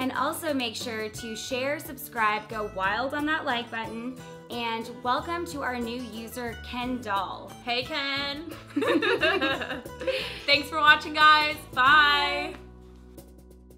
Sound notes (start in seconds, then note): 8.8 laughs